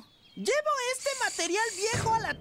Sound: none

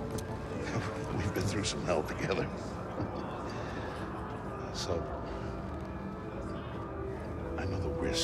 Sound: chuckle

